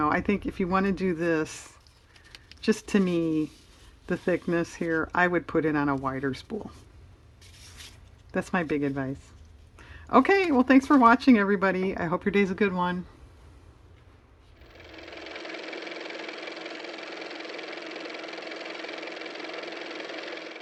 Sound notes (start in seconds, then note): 17.7 car motor